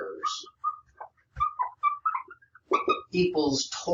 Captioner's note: marker squeaking